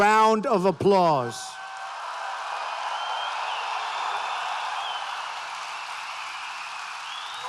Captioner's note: applause